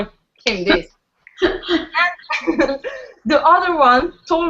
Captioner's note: laughs